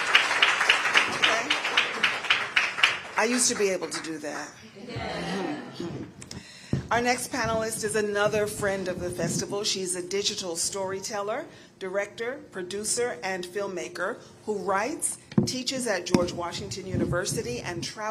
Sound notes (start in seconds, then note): 1.9 applause